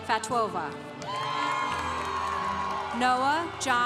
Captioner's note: congregation cheering